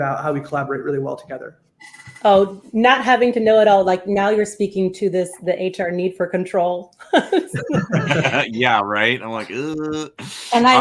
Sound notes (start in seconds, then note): 7.1 all laugh